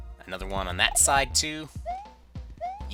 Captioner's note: none